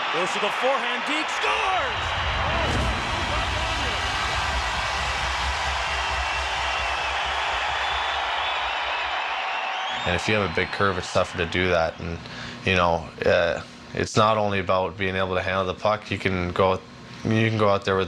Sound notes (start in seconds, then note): 4.2 crowd cheers; 4.7 siren blares